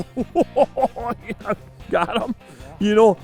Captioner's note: laughs